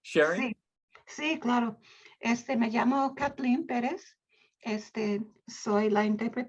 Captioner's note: speaking in Spanish